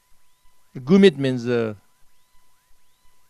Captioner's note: tibetan